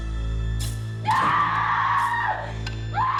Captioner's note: screaming